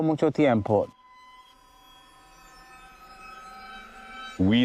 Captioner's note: high pitched buzzing